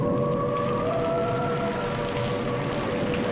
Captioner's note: rain falling